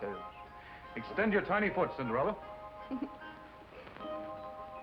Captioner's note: laughter